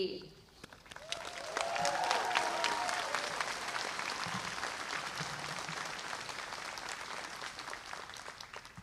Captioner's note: applause